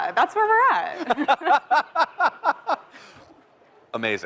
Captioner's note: laughter